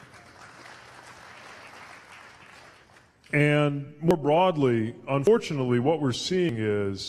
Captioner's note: applause